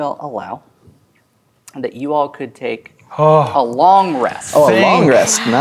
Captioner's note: sighs in relief